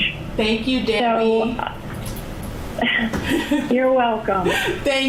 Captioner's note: laughing